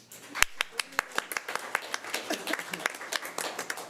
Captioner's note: audience applause